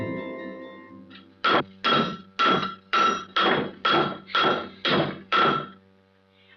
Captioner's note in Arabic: دقات على المعدن